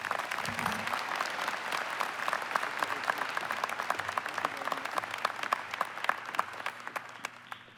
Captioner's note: applause